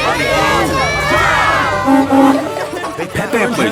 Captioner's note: honking